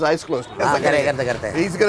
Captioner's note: speaking in Hindi